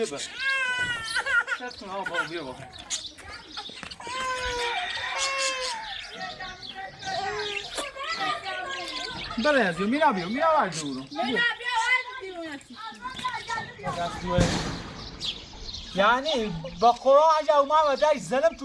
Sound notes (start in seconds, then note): 0.2 crying and screaming